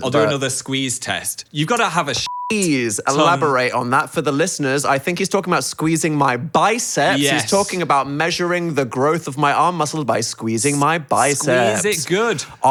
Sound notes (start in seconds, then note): 2.2 beep